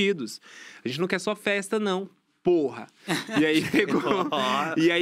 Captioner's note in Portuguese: risos